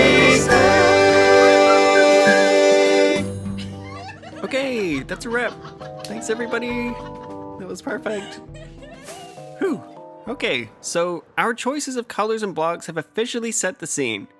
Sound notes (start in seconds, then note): 3.6 laughter